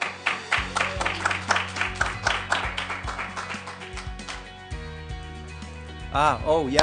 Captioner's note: applause